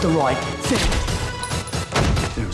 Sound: body hits ground; gunshot

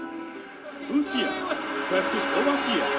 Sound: non-english speech

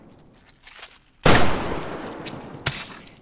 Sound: gun shot

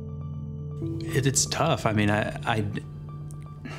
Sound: sighs

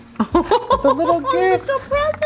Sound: laughing

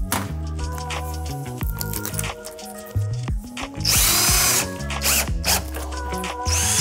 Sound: lively music; drill whirring

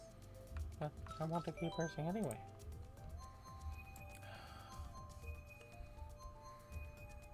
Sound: sigh

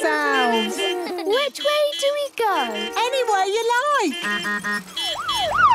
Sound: laughter; honking, siren wailing

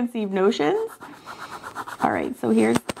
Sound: pen scribbling

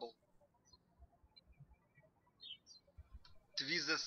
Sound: birds chirping

